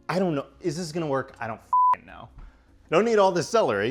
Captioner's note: beep